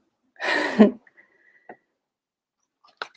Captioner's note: chuckles